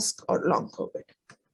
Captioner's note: silence